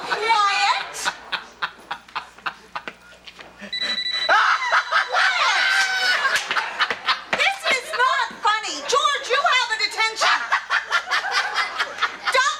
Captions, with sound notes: - Quiet. (phone ringing) (George laughing) Quiet. This is not funny. George, you have a detention. (George laughing) (audience laughs)